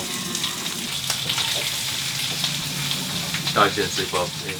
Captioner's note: rain pouring